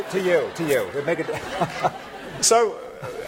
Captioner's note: laughter